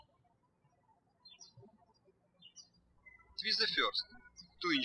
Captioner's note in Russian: птички щебечут